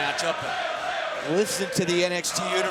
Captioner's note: crowd chants "Ole, ole ole ole"